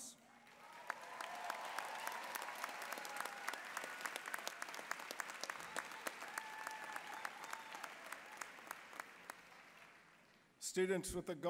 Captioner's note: applause, cheering